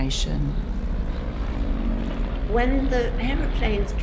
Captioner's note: airplane engines sputtering